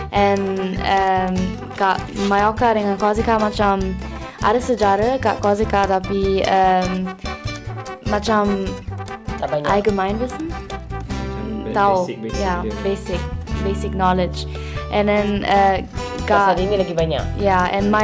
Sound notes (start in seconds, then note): 9.2 speaking German